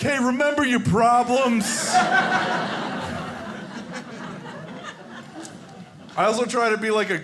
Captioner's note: audience laughing